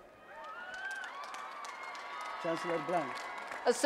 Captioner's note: applause and Cheering